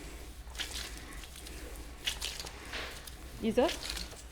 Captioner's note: paste squelches